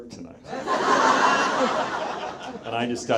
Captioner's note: audience laughs